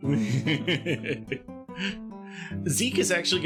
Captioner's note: laughing